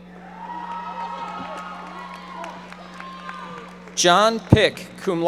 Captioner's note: audience applauding